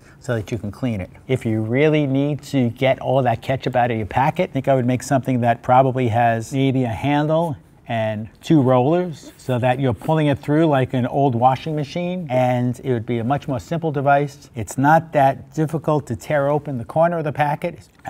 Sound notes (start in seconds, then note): none